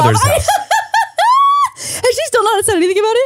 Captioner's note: laughs